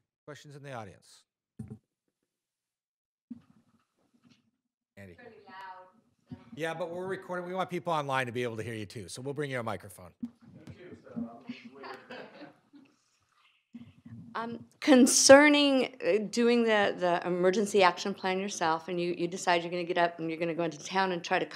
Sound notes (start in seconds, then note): 11.5 audience laughing; 11.6 employee speaking off microphone